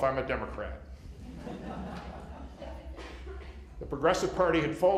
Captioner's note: laughter